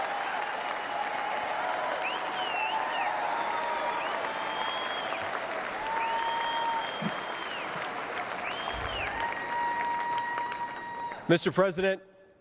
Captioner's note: cheers and applause